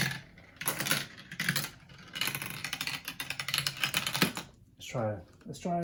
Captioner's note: marbles rattle on tubes